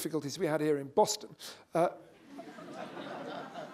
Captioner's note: laughter